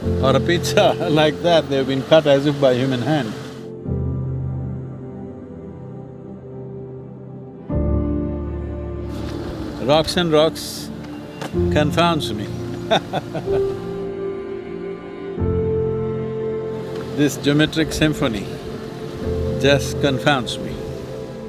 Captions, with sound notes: or a pizza, like that, they've been cut as if by human hand. Rocks and rocks confounds me. (Laughs) This geometric symphony just confounds me.